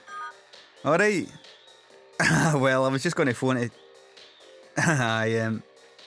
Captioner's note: chuckles awkwardly